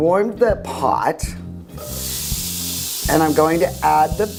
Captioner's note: sizzling food